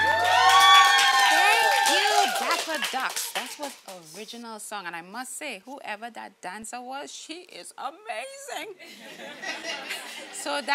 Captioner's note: laughing